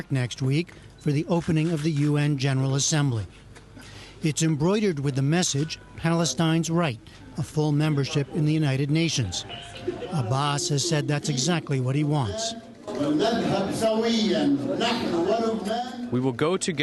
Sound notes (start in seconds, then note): 15.1 through translator